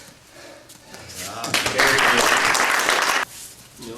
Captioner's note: audience applauding